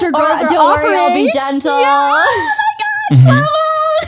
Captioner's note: laughs